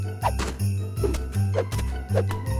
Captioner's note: snowballs splatting